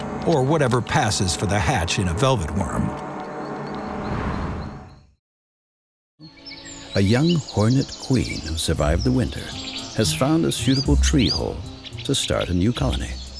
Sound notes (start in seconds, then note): 6.3 birds chirping